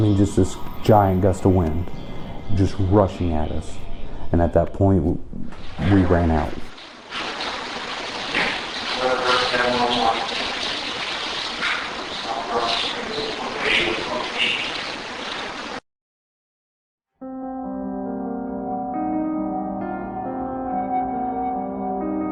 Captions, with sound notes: this giant gust of wind just rushing at us. And, at that point, we ran out! (Indistinct chatter) (Soft piano music)